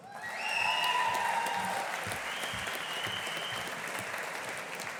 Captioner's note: audience applauding